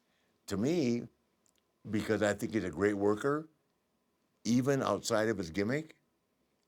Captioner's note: none